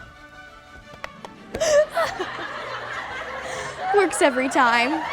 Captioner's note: laughter